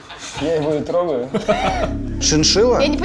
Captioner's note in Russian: смех